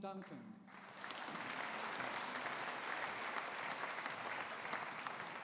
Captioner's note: audience applauding